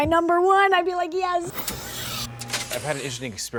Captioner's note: electronic buzzing